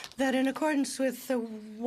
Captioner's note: speaking French